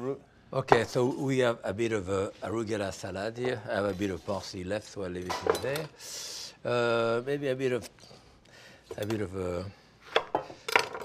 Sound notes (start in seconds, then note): none